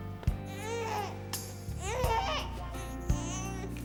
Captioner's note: wailing